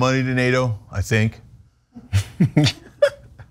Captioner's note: laugh